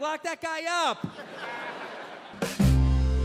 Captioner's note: audience laughs; bright music